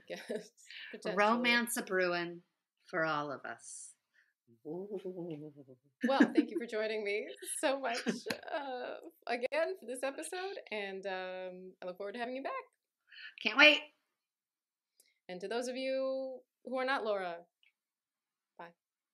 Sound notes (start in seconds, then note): 6.0 witchy giggling